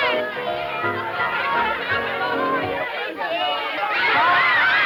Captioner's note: children yelling